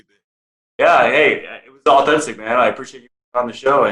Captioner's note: speaking away from mic